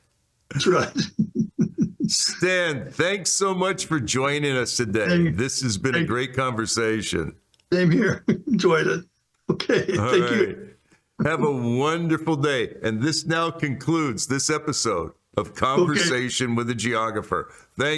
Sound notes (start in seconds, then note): 0.5 laughs